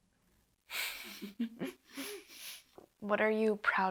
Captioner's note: both chuckles